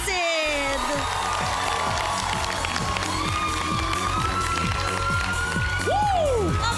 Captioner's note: audience cheering